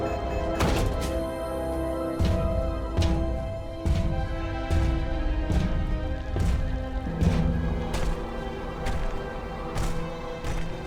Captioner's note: beeping